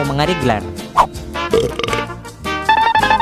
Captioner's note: burp